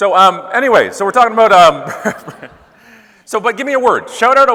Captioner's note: laughing